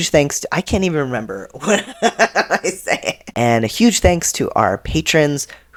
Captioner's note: laughter